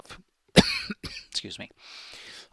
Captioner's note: cough